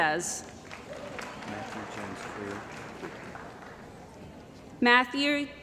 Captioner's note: cheering & Applause